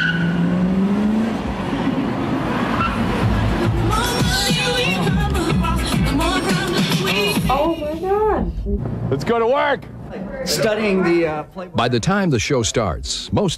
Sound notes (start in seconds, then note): 0.0 tires screeching; 1.6 car engine revving